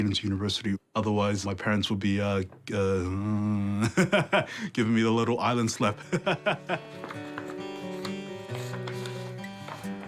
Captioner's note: laughs